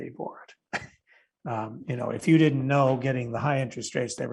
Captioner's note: chuckling